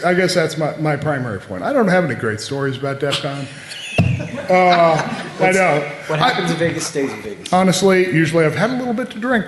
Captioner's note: off mic